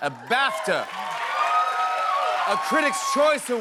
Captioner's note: cheers and applause